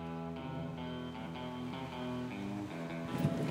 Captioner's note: none